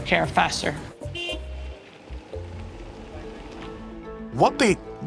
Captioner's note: horn honks